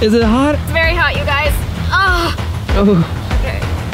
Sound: grunts

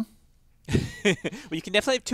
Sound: laugh

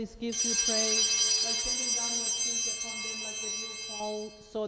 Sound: bells ringing

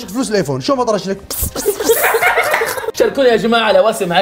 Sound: everyone laughs

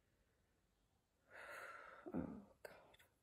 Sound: sighs

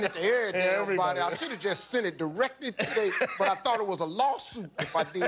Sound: laughter

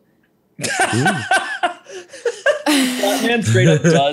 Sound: laughs

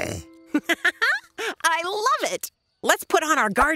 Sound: laughs

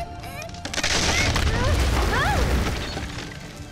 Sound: crashing sounds

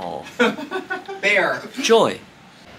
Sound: laughing

